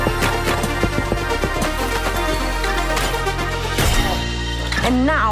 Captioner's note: blocks tap into place